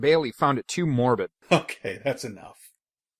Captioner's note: chuckling